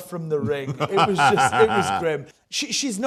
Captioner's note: laughs